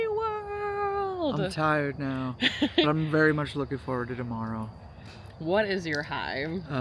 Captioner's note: laughs